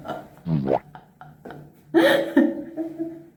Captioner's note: bowomp sound effect